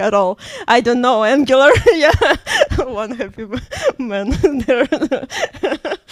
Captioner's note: laughs; laughs